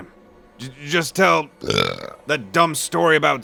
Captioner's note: burp